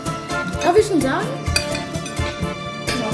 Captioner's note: speaking German